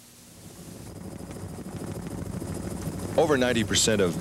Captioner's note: helicopter blades whirring